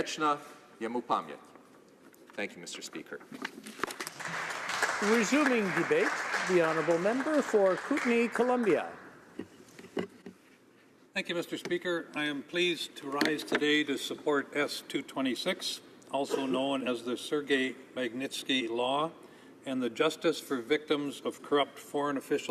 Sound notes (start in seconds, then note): 6.1 speaking Alternate Language; 8.9 cheering and Applause